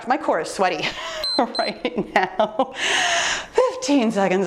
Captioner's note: timer beeps